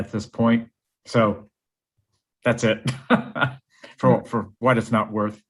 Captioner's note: laughs